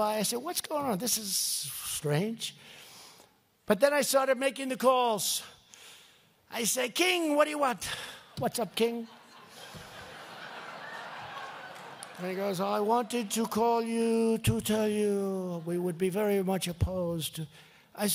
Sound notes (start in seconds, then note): 9.0 laughter